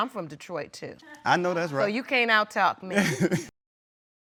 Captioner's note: laughs